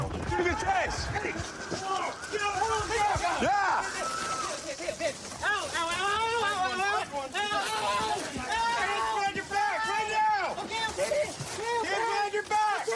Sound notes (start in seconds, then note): 2.0 officers yelling